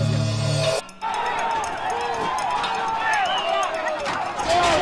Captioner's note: shouting